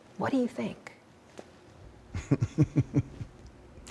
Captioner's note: laughter